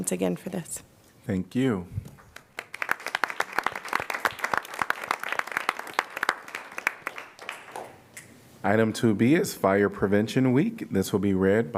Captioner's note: applause